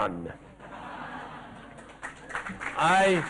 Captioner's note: laughter